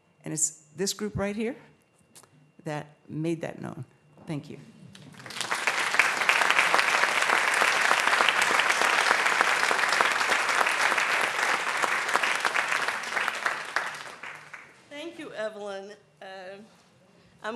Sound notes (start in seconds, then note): 5.1 applause